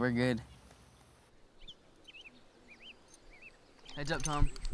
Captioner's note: birds chirping